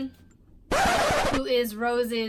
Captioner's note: record scratch